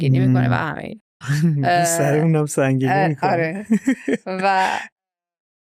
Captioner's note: laughter